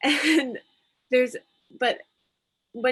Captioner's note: laughs